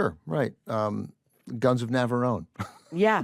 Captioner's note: chuckles